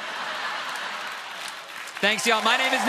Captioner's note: laughter